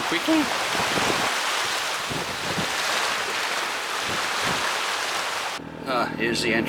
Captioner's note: wave Noise